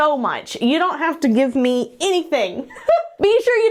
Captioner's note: laughs